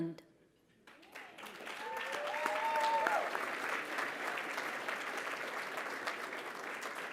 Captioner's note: applause